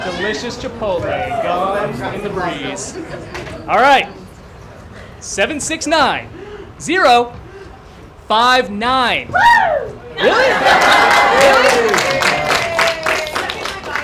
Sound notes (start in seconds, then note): 10.1 cheering; 10.6 applause